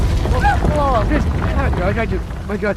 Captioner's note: house rumbling; Vinny groans